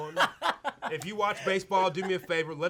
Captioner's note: laughs